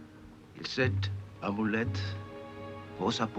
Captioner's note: speaking french